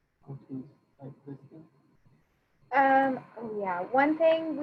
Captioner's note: speaking faintly